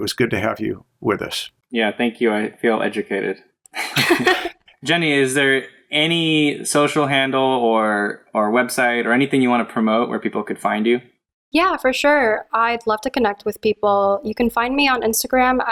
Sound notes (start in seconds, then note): 3.7 laughter